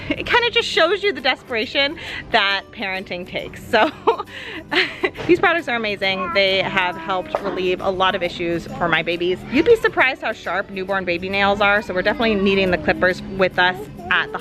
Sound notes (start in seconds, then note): 3.8 laughing